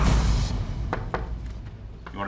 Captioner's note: knocking on door